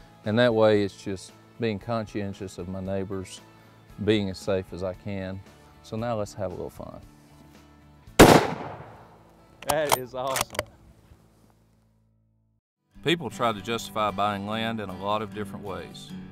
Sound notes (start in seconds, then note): 8.2 gunshots